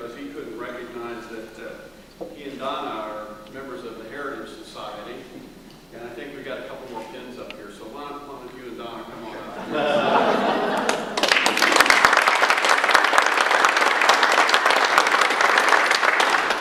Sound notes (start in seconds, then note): 9.4 laughter; 9.8 audience applause